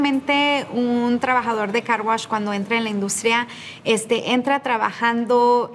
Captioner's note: speaking in Spanish